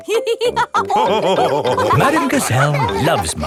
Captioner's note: all laughing